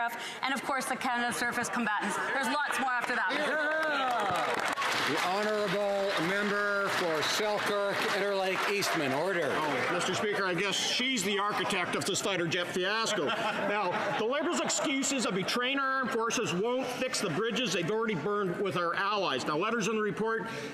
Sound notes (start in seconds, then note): 7.8 some Applause